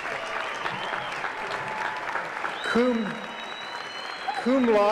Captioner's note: applause